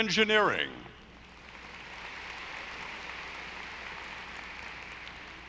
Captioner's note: audience applauding